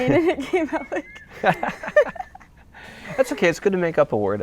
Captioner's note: laughter